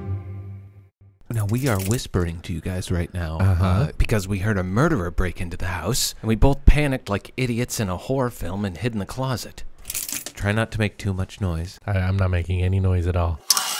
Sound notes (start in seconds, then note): 9.8 clothes hangers moving